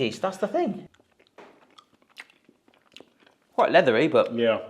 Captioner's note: chomps